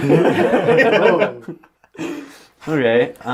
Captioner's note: all laugh